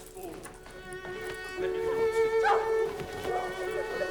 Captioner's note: people chattering frantically